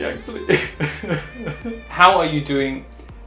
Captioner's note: crying